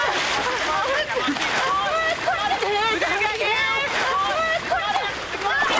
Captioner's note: shouting